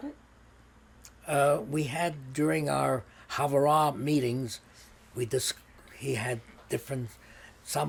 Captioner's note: hebrew